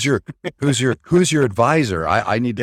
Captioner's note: laughs